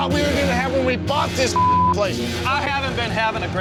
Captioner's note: beep